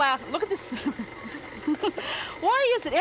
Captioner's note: laughs